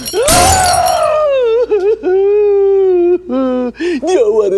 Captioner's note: Glass shattering; Crying